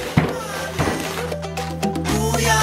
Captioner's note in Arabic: مجموعة ضربات ضد الطاولة; حفيفات لف ساران; موسيقى مبهجة